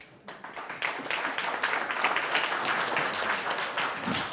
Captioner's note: audience clapping